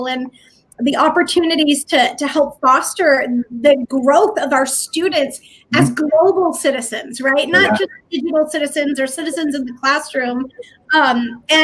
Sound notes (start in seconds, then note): 8.0 voice fades